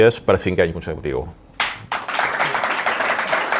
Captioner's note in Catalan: Aplaudiments